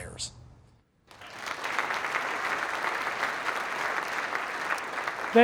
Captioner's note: applause